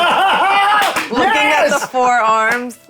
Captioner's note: laughing